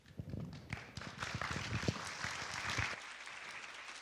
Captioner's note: students claps